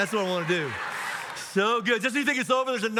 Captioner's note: audience laughs